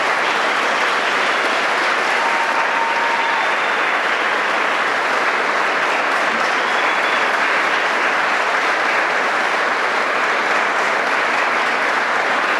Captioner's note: applause